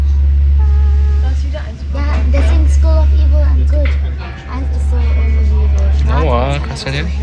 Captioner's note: speaking German